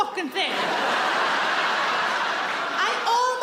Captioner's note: audience laughs